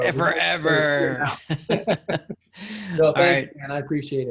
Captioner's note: laughs